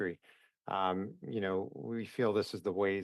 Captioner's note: speaking English